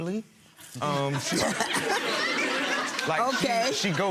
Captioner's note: laughing